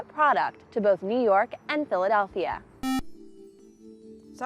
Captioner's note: buzzer